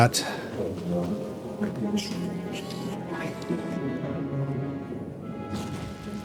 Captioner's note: sighs